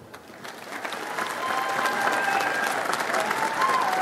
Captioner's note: audience applauds